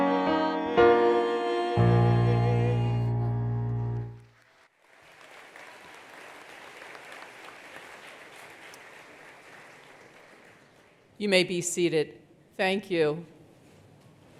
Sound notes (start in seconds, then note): 4.0 attendees applauding